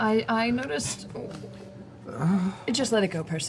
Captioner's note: sighs